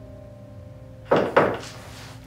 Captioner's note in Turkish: kapı vurulur